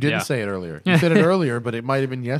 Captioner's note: laughter